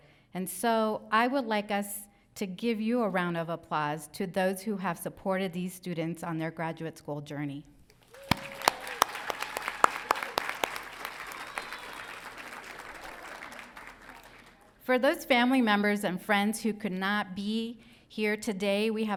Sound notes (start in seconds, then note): 8.1 crowd applauding